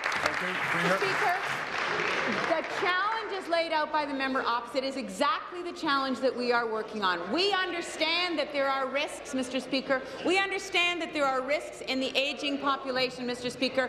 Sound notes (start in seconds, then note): 2.8 applause